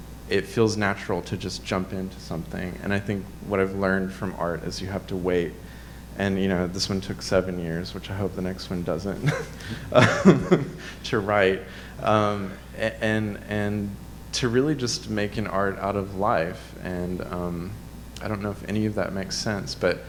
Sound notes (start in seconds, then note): 9.1 chuckles